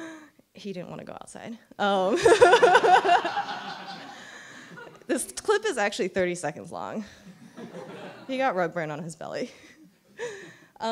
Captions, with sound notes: He didn't want to go outside. (chuckles) (laughter) This clip is actually 30 seconds long. He got rugburn on his belly.